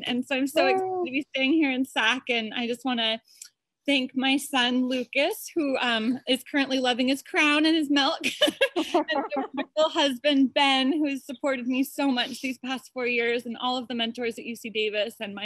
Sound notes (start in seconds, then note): 8.4 laughs softly